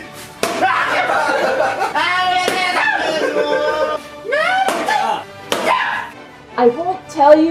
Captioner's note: several times of yelping and screaming in pain